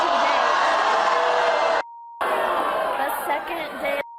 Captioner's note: audience screaming